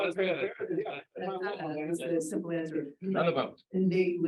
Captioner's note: people chattering indistinctly